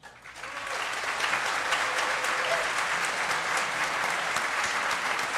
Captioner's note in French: applaudissements